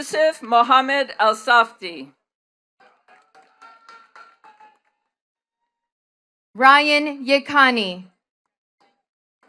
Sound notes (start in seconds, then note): 2.8 attendees clapping